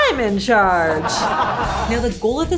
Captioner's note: laughing